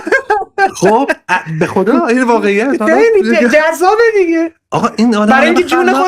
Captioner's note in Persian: خنده